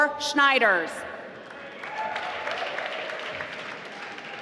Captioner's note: applause